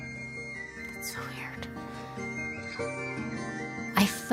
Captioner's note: whispers